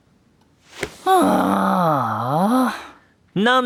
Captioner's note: Jellie plops down on the table with a big sigh